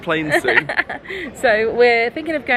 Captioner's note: laughing